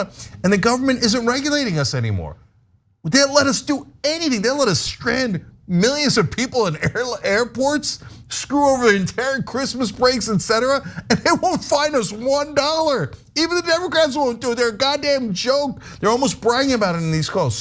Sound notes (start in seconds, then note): 8.6 laugh